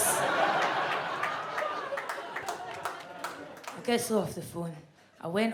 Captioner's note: audience laughs